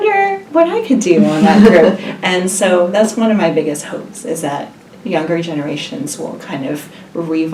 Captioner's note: laugh